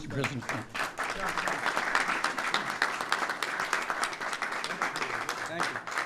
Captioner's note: applause